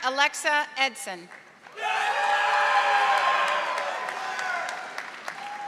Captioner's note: audience applauding